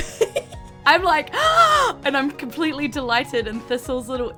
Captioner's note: gasps